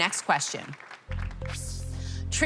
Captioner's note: sighs